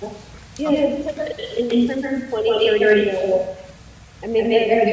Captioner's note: audio echoing